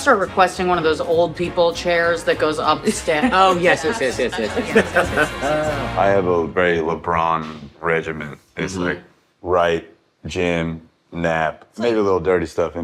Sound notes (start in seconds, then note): 2.9 all laughing